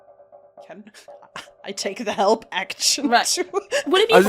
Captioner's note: laughs